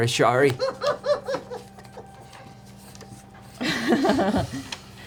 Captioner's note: laughs